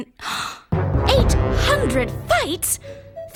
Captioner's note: gasping